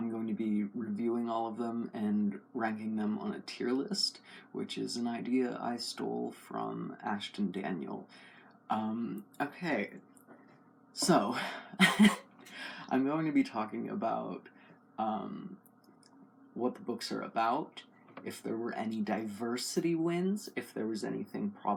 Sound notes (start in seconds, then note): 11.3 laugh